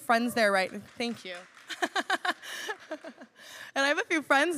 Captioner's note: cheers; laughs